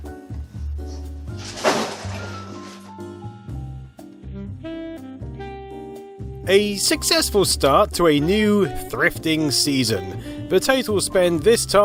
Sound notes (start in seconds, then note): 1.3 crashing of boxes